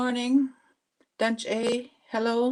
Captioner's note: speaking Indigenous language